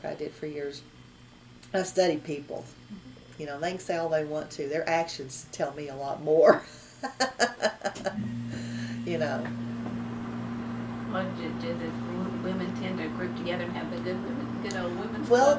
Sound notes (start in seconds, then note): 7.0 laughs